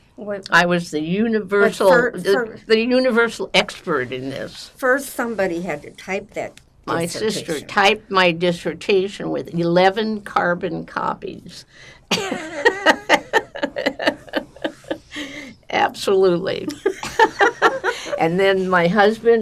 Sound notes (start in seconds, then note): 12.1 laughing; 16.7 laughing